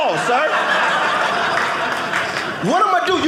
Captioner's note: audience laughing